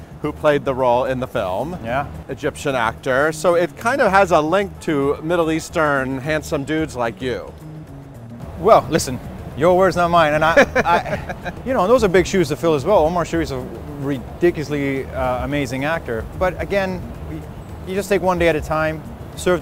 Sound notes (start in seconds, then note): 10.3 laughing